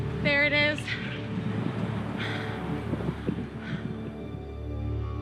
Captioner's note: heavy breathing